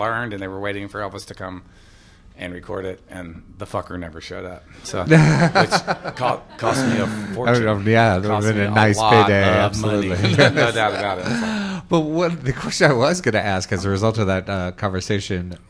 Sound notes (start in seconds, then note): 5.0 laughter; 10.7 laughs